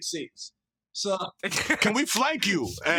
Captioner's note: desus chuckles